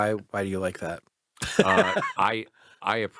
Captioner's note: laughs